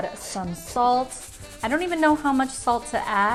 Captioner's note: shaking salt